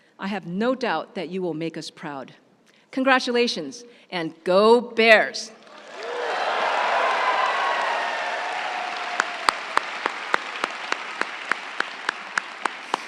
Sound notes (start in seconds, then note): 5.6 audience applauding; 5.6 audience cheering